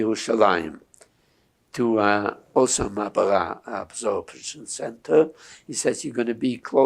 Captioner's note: hebrew